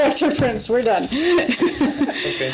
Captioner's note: laughs